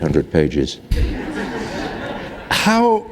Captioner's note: laughter